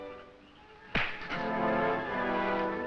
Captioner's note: thud; intense music